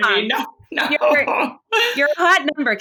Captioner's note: laughs